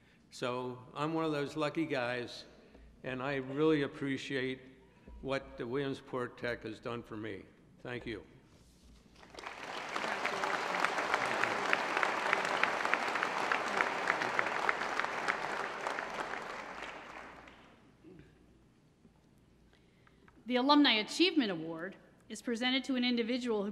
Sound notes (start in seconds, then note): 9.1 applause